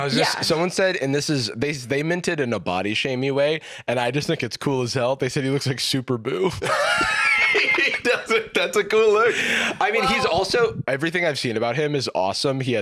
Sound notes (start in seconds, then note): 6.6 both laughing